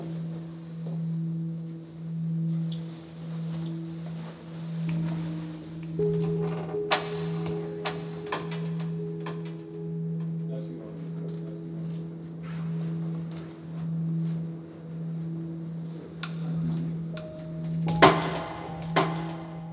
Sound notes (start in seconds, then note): 7.4 door creaking; 7.4 eerie instrumental music